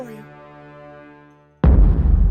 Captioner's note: boom